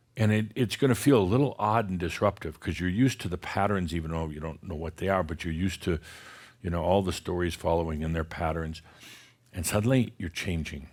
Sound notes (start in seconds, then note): none